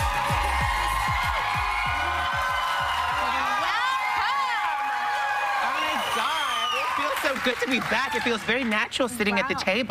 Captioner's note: cheers and applause